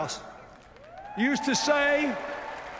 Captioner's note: cheers, applause